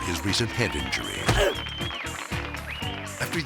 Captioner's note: grunts